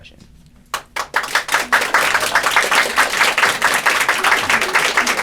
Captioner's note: applause